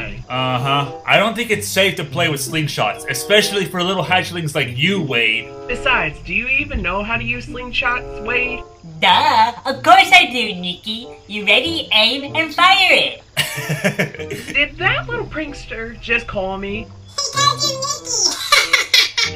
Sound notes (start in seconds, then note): 13.4 Enrique laughs; 18.8 laughs